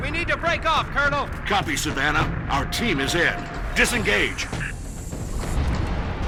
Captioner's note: radio